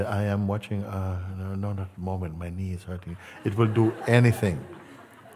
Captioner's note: Lachen